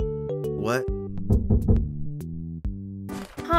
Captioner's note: knocking